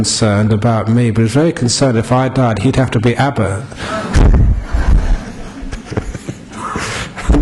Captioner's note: laughs